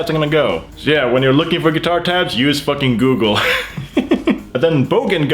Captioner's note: laughs